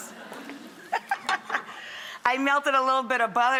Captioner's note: laughs